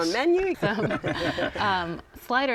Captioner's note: laughter